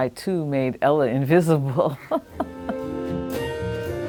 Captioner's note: chuckles; playing jazz piece